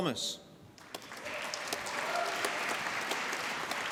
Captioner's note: applause